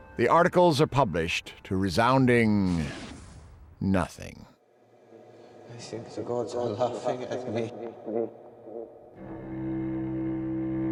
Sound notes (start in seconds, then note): 6.2 <i> voice echoing</i>